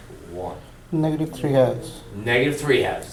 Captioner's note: voiceover